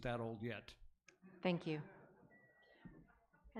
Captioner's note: audience laughs